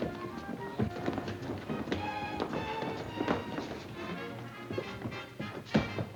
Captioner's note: gentle music; footsteps plodding